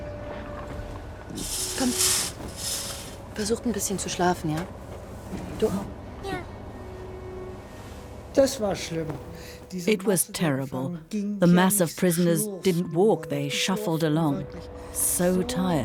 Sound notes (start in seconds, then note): 1.8 speaks in foreign language